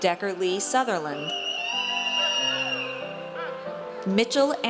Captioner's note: audience cheers